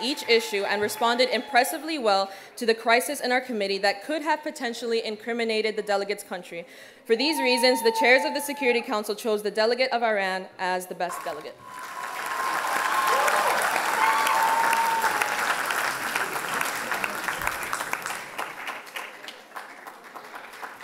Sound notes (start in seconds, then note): 11.6 applause and cheers